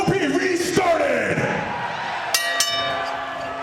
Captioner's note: bell rings